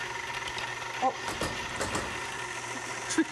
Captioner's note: thumping